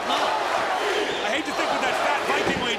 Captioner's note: crowd cheering